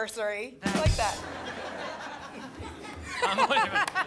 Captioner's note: laughter